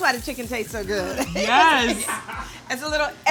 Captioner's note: laughs